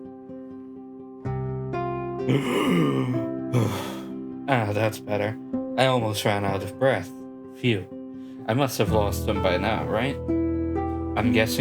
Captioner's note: deep breath